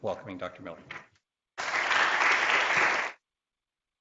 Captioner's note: applause